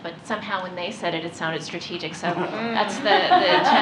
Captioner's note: laughter